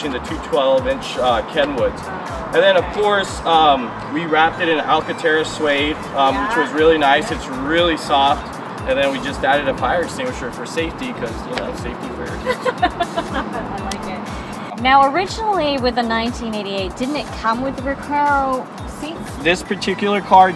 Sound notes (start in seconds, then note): 12.2 laughs